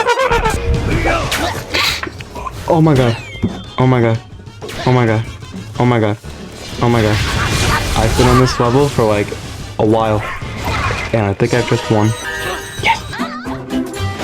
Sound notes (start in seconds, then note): 1.7 sniffs Oxygen